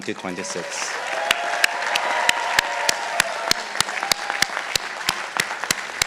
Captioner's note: participants applauding